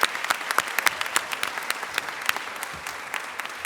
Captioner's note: applause